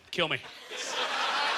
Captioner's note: audience laughter